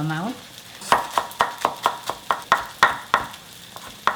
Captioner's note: knife tapping